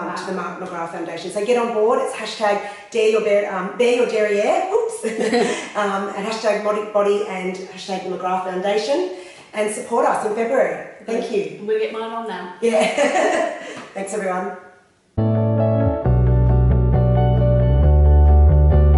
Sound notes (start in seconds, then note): 12.7 laughter; 15.1 slow instrumental music